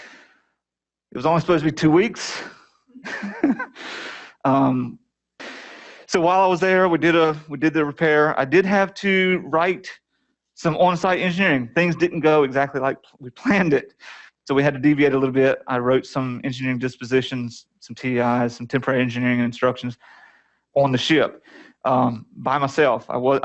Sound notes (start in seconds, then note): 3.0 laughter